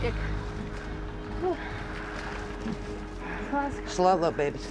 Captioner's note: exhales deeply